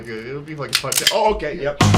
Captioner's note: cocks gun